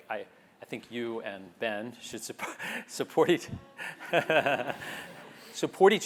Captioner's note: laugh